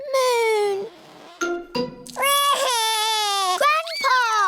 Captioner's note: wails